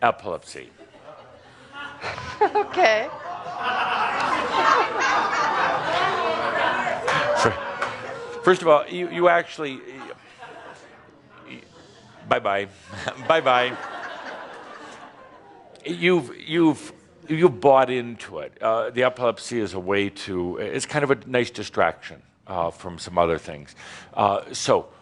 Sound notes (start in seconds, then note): 7.0 chuckling; 14.3 some chuckles